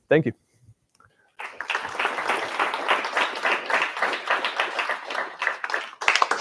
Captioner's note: applause